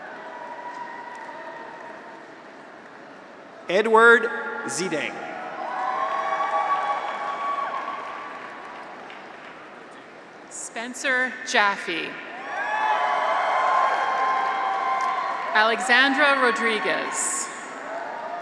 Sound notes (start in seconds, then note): 0.0 graduates cheer; 4.7 graduates cheer; 5.6 audience applauds; 12.2 graduates cheer; 12.5 audience applauds